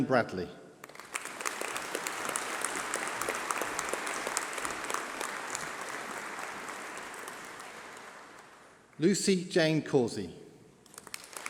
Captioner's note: applause